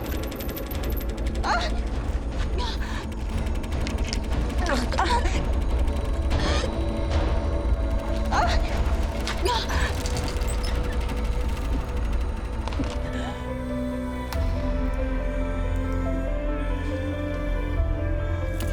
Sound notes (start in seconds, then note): 0.1 student moaning; 6.7 student coughing; 8.6 student moaning; 13.0 tense music